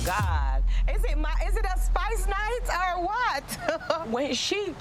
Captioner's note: chuckles